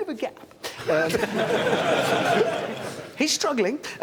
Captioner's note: laughter